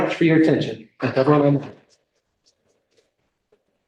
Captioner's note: speaking swedish